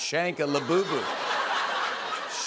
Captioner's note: laughter